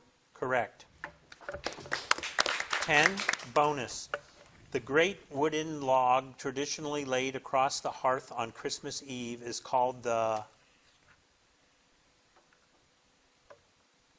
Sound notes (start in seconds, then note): 1.6 audience applauding